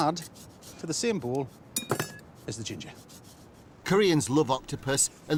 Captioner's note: utensils clanging